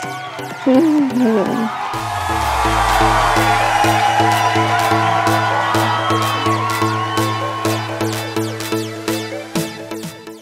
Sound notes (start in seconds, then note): 1.7 audience cheering; 7.6 upbeat music